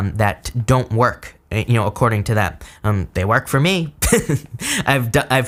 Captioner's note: laughs